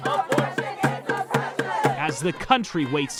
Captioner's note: crowd